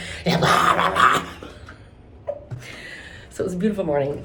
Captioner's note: imitates Cookie Monster